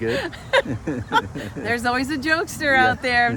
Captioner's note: both laughing